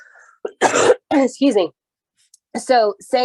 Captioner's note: cough